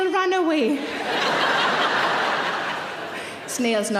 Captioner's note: audience laughs